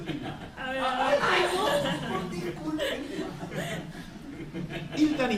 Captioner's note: laughter